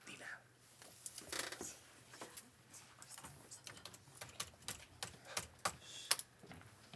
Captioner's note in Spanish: Susurros